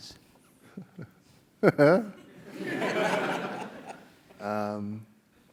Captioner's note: laugh